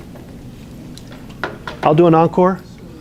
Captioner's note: wood clanging